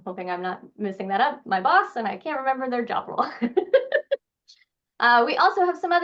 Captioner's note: laughing